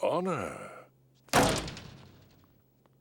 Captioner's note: door slams